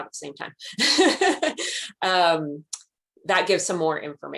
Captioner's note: laughs